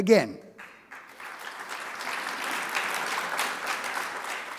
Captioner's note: audience clapping